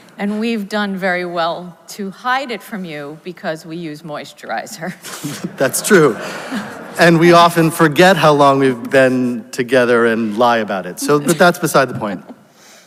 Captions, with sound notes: - And we've done very well to hide it from you because we use moisturizer. (both laugh) (audience laughs) - That's true. And we often forget how long we've been together and lie about it, so, but that's beside the point.